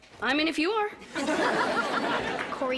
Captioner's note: audience laughter